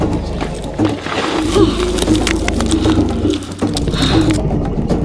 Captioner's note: rocks crumbling